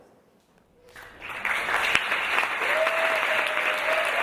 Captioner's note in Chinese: 鼓掌聲